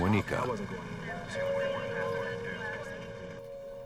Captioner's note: police chatter